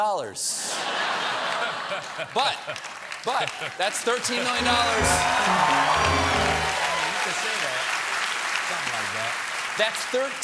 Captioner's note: cheers and applause